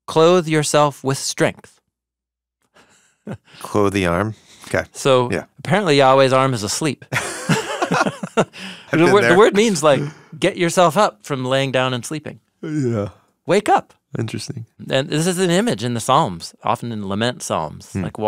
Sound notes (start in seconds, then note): 7.1 laughing